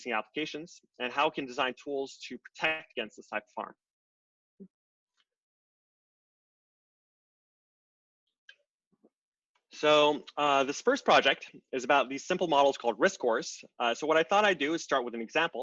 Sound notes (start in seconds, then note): 4.1 silence